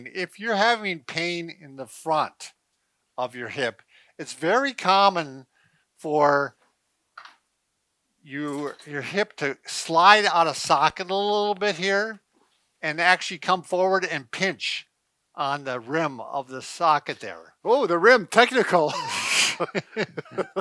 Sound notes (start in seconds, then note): 18.8 laughing